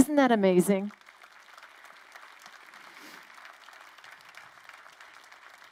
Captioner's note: crowd applauding